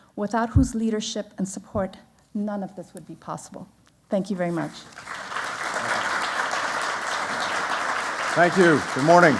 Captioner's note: applause